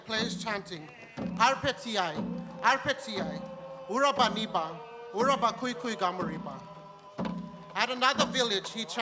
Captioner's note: speaks in language